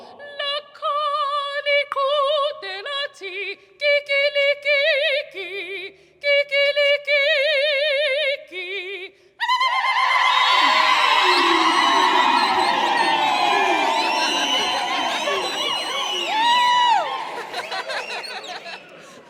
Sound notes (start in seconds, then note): 0.1 singing solo; 9.6 choir ululating and cheering; 15.4 chuckling